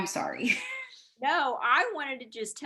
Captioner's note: laughing